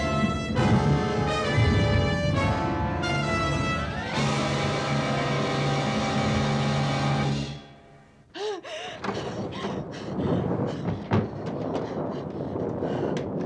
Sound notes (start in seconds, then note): 8.4 gasping, panting; 8.9 thunder continues rumbling